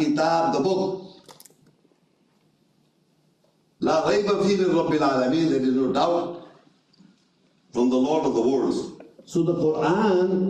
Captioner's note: reading Arabic